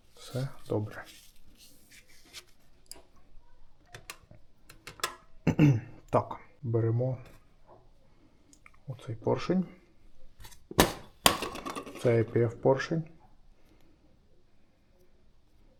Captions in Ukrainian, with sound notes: Все добре. [прочищення горла] Так, беремо оцей поршень. Цеп поршень.